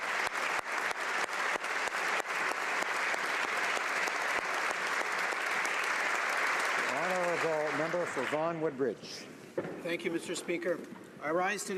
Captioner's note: applause